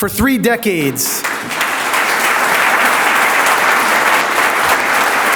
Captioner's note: audience applauds